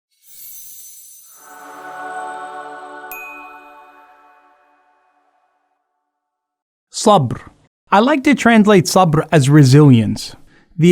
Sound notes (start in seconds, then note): 1.1 ethereal music; 1.9 bell rings